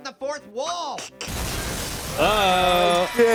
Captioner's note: glass breaking